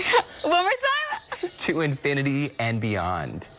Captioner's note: laughter